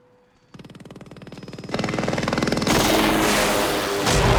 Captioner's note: helicopter approaching